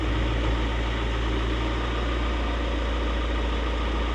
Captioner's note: engine rumbling